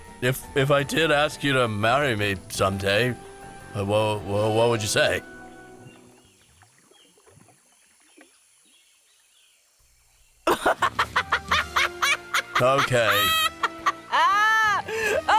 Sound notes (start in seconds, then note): 10.4 laughter